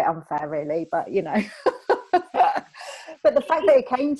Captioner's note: laughs